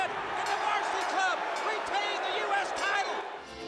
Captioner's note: bell ringing